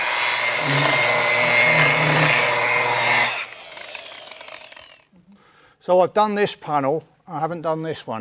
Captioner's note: machine sound